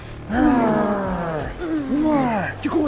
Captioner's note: grunting